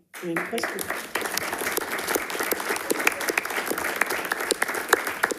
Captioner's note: attendees clapping